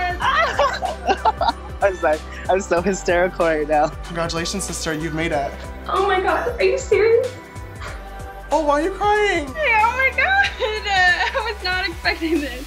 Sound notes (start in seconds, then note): 0.1 laughing; 9.4 sobbing